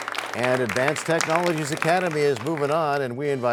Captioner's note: applause